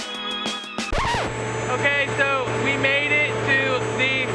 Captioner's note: calm music; record scratching; machinery roaring